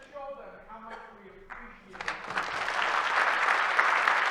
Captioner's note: attendees applauding drowns out speaker